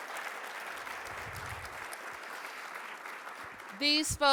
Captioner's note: applause